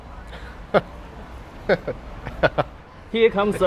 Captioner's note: giggling